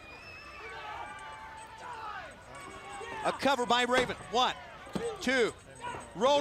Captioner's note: crowd chatter